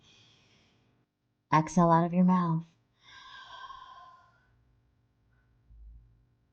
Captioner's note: exhaling